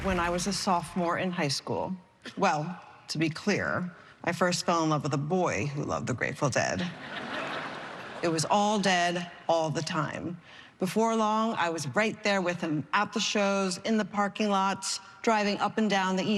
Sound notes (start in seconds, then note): 6.8 laughter